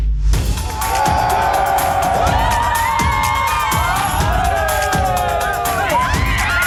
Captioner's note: upbeat music; crowd cheering